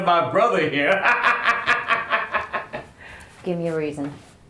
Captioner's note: cackling laughter